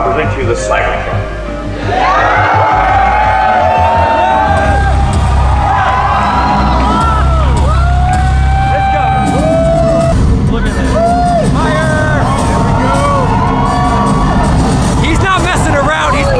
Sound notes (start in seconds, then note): 2.4 electronic music; 4.4 crowd cheering